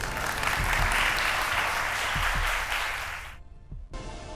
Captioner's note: applause